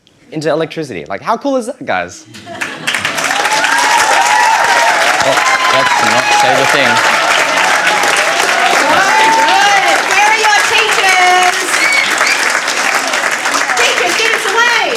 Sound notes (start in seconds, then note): 3.4 cheering and applause